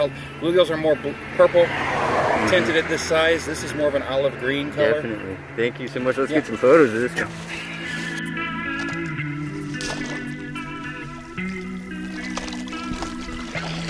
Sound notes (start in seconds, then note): 9.5 water splashing